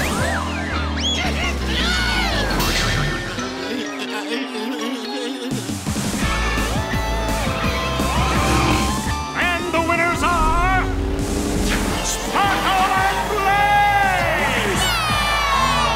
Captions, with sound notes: [squealing] And the winners are... Sparkle and Blaze! Yeah!